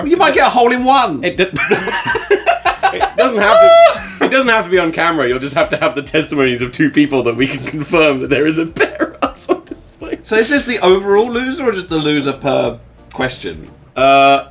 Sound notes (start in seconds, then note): 1.5 all laugh; 3.4 screaming; 8.5 laughing